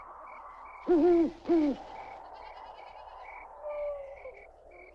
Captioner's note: owl hooting